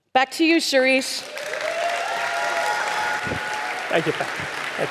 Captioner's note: audience applauding